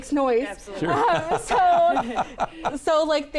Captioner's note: laughs